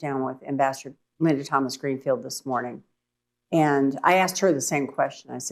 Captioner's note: none